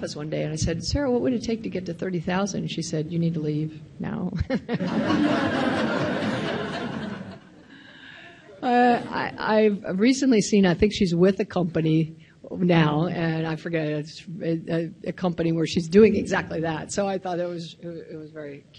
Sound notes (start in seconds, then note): 4.6 laughs; 6.4 audience laughs